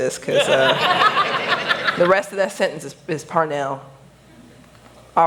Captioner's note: laughter